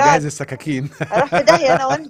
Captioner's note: laughs!